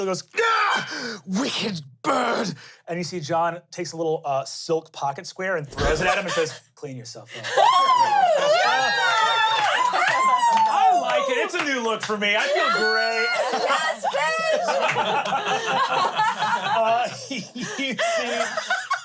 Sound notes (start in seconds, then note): 7.8 everyone cheers; 13.8 everyone laughs